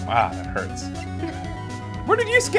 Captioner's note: laughs